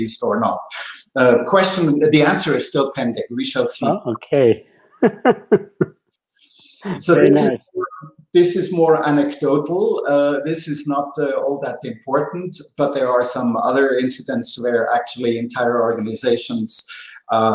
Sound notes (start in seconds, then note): 5.0 laughter